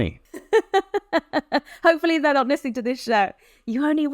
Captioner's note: laughs